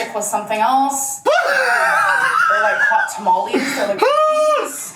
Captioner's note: laughs